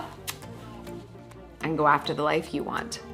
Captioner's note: smooches